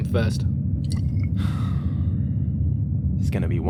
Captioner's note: sigh